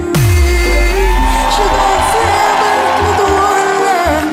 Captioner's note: singing in a different language; crowd cheers